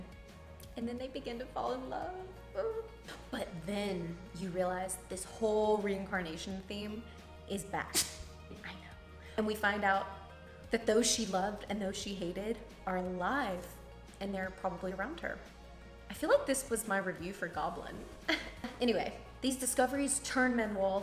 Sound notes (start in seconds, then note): 7.9 dog sneezes